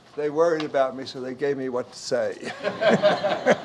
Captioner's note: audience Laughs; laughs